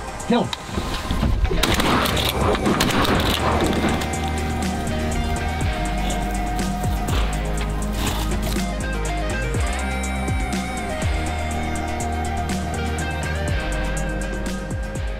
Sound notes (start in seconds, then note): 1.6 gunshots